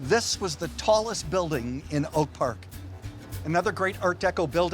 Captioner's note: none